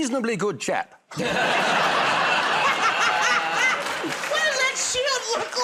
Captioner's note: laughter